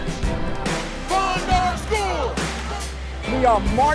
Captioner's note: crowd